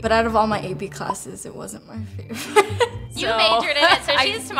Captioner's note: laughs